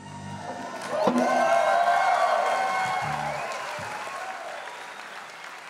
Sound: crowd applauds and cheers

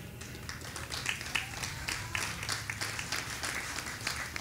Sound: audience applauding

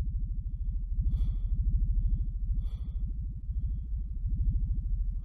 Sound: breathing quietly

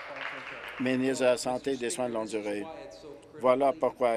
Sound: applause

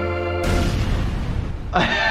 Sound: projectile exploding; laughing

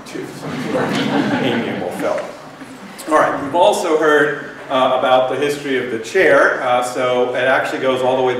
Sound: laughter

